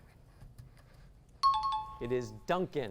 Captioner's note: high-pitched tones